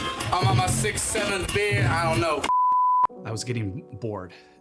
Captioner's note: beep